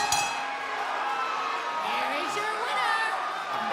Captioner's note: bell ringing